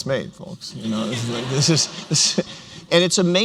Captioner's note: laughter